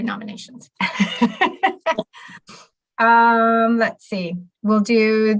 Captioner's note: laughs